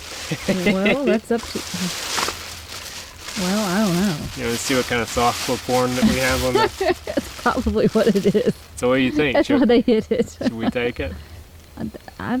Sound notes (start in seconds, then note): 0.2 chuckling; 6.0 laughs